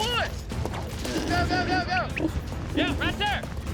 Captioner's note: hog snorting